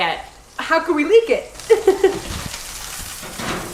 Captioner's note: laughs